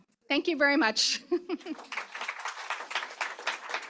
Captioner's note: applause